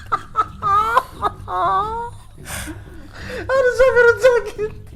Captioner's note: laughing